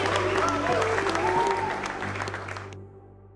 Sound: applause

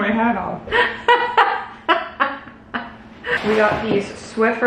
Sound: laughing

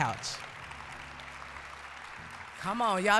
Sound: applause

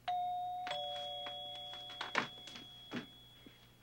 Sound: phone ringing

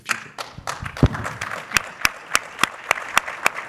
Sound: clapping

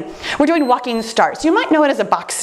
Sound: timer beeps

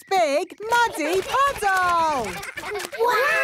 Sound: splashing

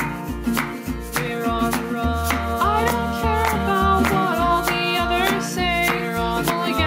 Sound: happi clap :D

